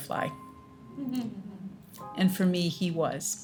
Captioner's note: audience softly laughs